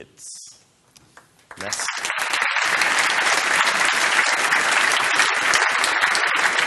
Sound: applause

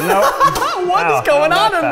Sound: laughing

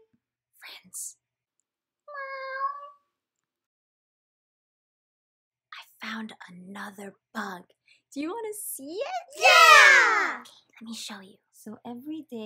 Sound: meow

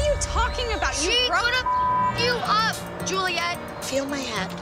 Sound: beep

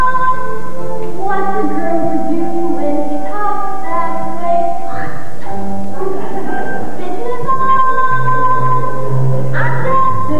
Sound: spits

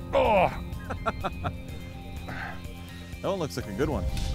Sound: laughs

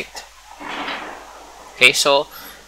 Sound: epic background thunder

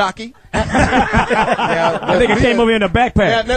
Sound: all laugh

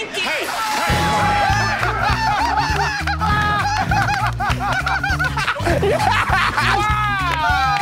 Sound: laughter

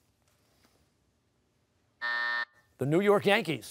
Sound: buzzer

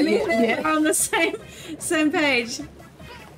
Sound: both laugh

